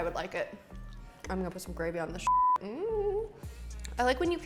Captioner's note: beep